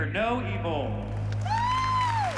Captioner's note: applause